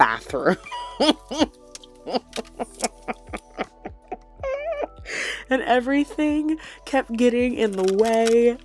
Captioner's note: unhinged laughter